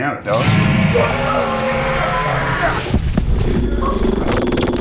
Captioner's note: creature attacking